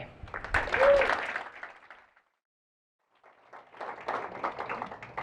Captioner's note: applause